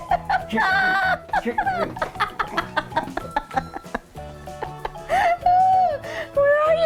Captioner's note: laughing